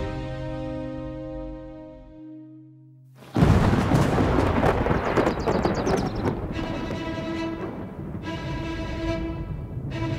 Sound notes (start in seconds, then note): 3.3 thunder rumbling; 5.9 epic western music